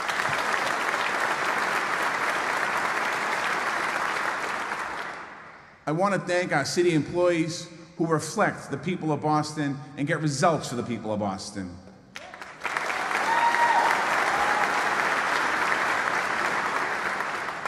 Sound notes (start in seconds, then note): 3.5 applause